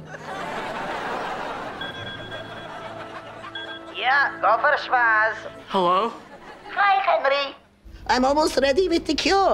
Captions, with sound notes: [chiming] Yeah? Go for Schwoz. Hello. Hi, Henry. I'm almost ready with the cure.